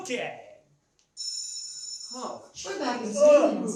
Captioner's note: bell rings